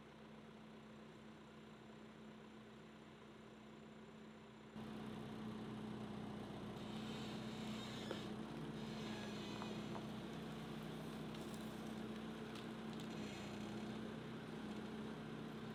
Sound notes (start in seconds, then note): 8.7 crane creaking